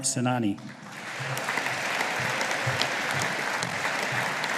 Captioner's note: audience applauding